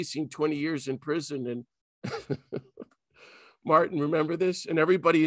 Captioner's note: laughs